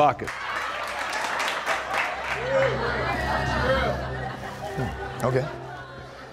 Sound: laughter

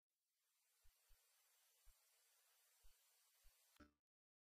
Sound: videocassette static; silence resuming

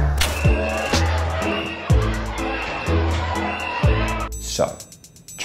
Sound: crowd yelling; whistle blowing and rioting crowd

